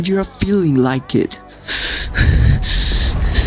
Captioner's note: heavy breathing